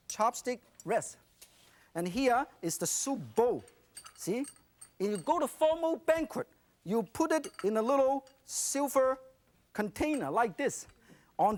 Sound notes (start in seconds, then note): none